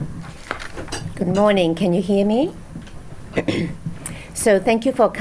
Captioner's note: clears throat